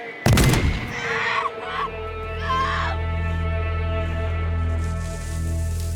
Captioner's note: gun booming; screaming